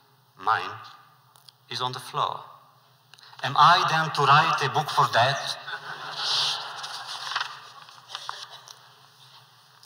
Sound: laughter

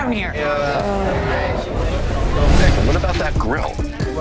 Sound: customers groan

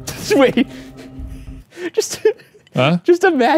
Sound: laughs

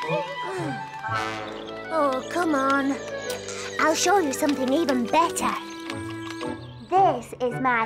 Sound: sighs

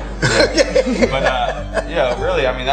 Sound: laughing

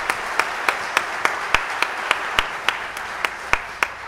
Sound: audience cheering

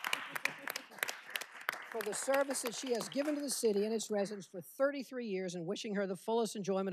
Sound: cheers and applause

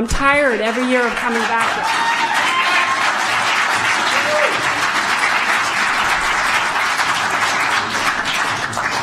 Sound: applause

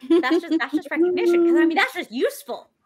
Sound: laughs

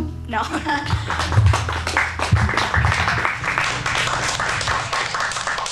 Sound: audience clapping

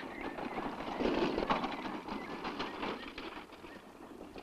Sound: wheels clanging

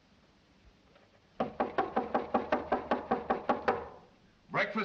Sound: knocks louder

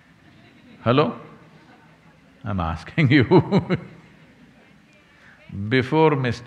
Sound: laughs

